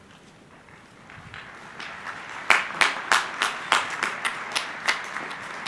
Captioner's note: crowd applauding